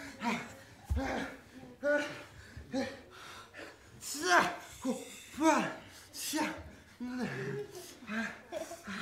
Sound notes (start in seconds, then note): 4.2 guy gasping